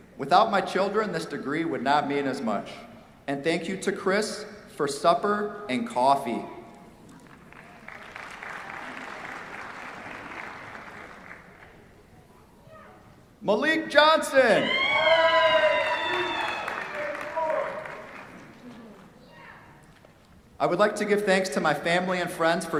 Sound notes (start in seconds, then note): 7.2 applause; 14.5 cheers, applause